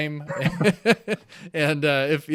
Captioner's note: laughing